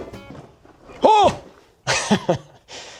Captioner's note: laughs